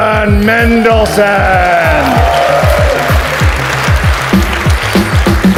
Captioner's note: audience applauds